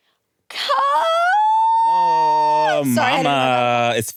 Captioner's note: shouts